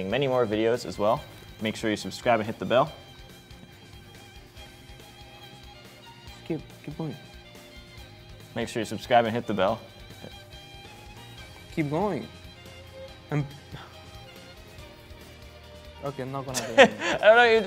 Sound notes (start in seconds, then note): 3.2 upbeat music; 7.5 upbeat music; 10.3 upbeat music; 13.3 sighs; 16.5 laughs